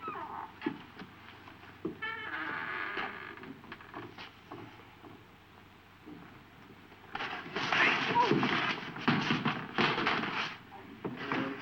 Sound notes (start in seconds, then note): 2.0 screen door squeaking; 7.1 objects thudding